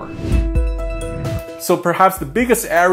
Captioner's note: upbeat instrumental music; air whooshes